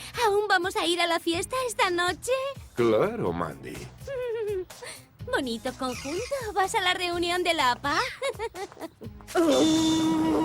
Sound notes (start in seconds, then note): 5.8 giggles; 7.9 laughs